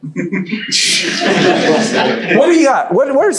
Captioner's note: audience laughs